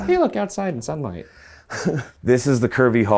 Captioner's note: laughs